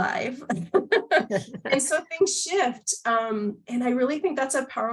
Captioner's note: laughter